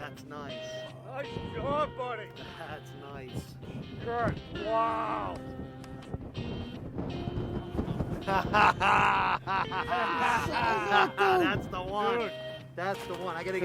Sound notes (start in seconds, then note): 7.9 laughing